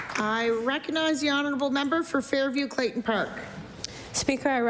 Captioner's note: applause